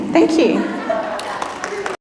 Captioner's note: applauding